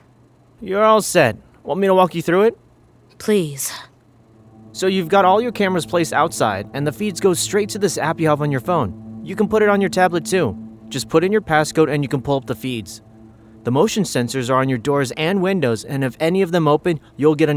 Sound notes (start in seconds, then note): none